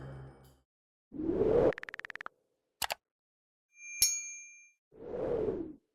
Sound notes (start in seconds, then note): 1.2 wind howling; 2.8 clicking; 3.8 bell ring